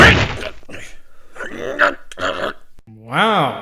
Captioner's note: growling